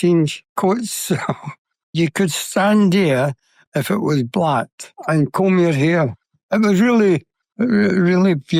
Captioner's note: laughs